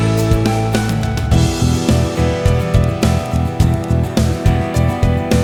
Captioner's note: clap